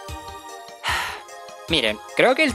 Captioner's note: sigh